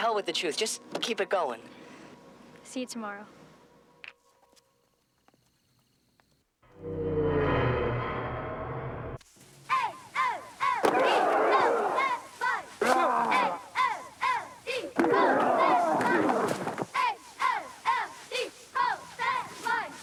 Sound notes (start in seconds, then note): 6.7 tense music; 10.6 players grunting